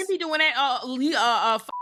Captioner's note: beep